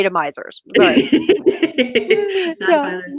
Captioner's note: laughing